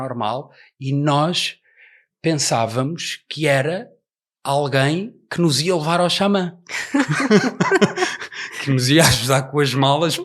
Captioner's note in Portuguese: risos